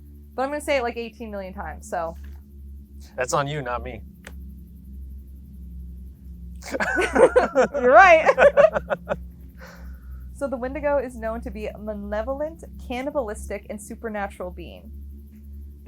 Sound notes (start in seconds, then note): 6.6 both laughing